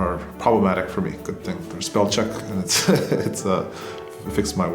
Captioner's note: laughs